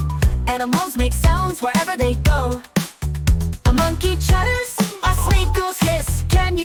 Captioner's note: ooh ooh aah!